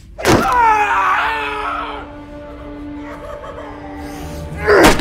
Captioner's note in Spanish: gritando; música intensa